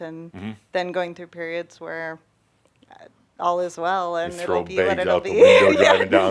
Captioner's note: she chuckles